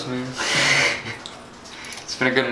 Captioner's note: laughs